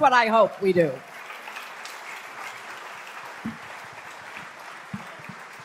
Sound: applause

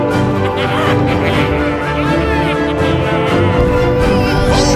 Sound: laughing

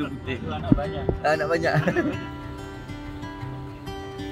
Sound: laugh

